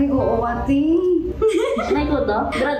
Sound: chuckles

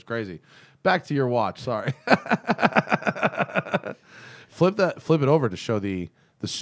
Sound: laughter

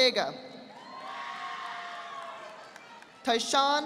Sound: audience applauding

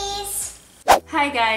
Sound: whooshing

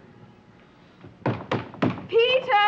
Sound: loud knocking

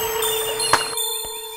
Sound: pats

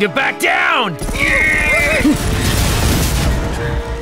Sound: gunfire

